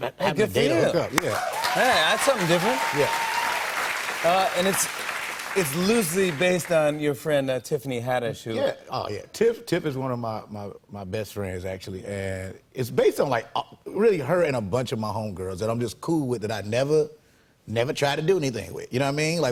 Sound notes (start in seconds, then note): 1.2 cheers and applause